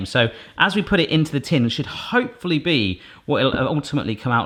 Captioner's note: none